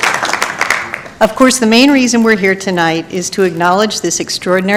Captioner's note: applause